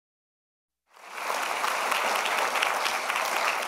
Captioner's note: applause